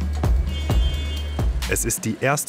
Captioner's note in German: Hupen